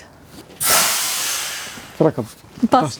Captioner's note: hiss